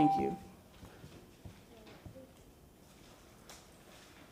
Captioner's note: bell sounds